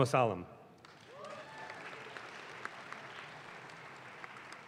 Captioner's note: audience claps